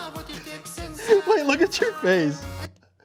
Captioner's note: laughing